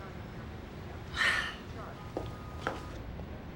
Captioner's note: sighs